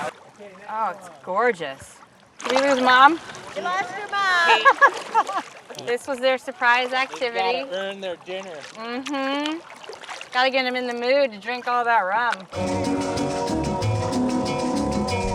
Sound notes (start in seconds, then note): 4.4 laughs; 12.5 happy music